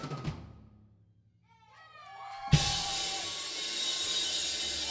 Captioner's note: crowd cheering